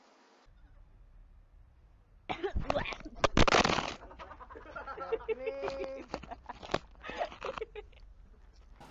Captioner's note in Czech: zakašlání, zvuk zvracení a následný smích